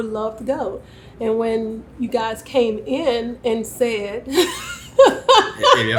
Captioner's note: laughs